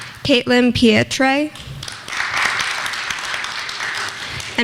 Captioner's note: clapping; clapping